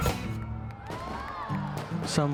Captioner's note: crowd cheering